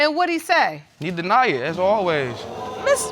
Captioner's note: audience exclaims